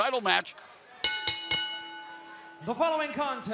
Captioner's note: bell ringing